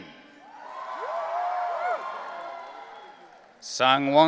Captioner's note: audience cheering